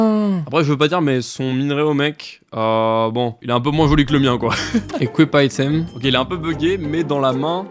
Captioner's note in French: rires